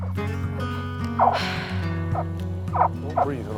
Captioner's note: sigh